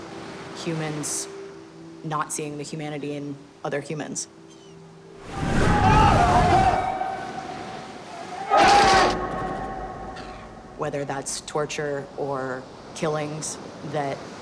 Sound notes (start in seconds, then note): 0.0 urgent talking in foreign language; 5.3 urgent talking in foreign language; 8.6 gunshots